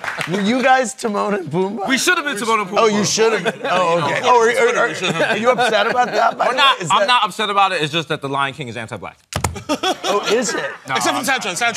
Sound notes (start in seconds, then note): 9.6 laughs